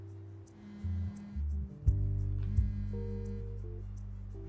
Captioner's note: cellphone buzzing